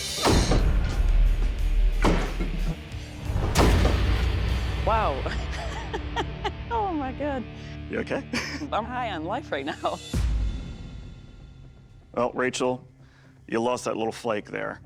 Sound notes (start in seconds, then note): 5.3 laughs